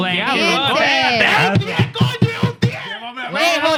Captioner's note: speaking Foreign Language